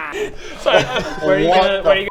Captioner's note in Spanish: risas